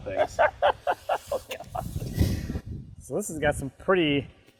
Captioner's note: laughing